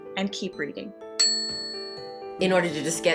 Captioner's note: soft music; bell ringing